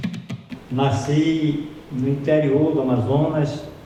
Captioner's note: non-english speech